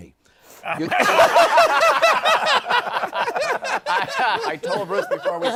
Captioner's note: laughter